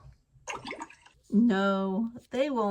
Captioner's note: water gurgles